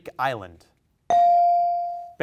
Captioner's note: bell rings